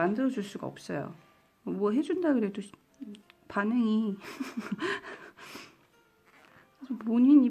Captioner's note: giggles